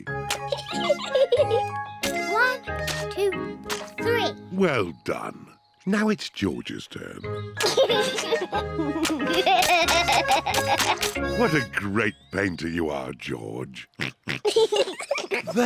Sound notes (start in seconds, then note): 0.4 giggles; 7.6 chuckles